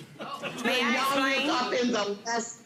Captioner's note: court laughing